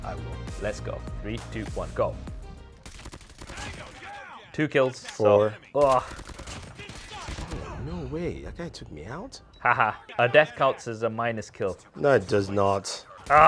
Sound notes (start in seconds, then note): 2.8 rapid gunfire